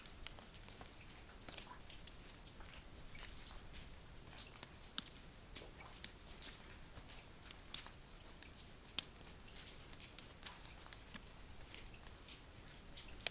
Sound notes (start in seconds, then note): none